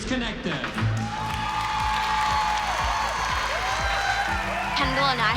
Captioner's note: cheering and applause